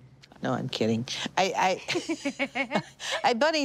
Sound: both laughing

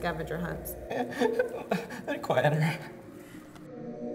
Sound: sobbing

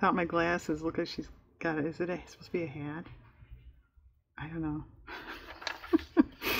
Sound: laughs

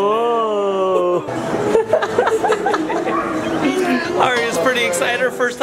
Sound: laughs

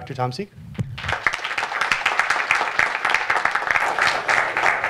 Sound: applause

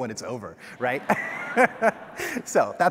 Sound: all laughing

